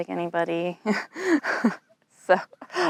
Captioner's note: laughs